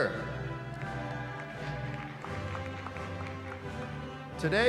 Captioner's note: applause